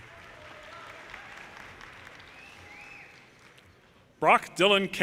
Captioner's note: audience applauding